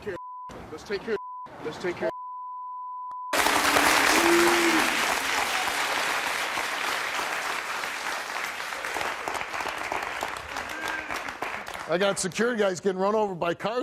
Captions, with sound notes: - Let's take care of (beep), let's take care of (beep), let's take care of (beep). (audience applause) - I got security guys getting run over by cars